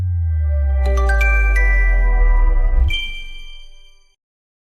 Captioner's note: chime